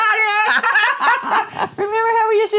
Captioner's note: both laughing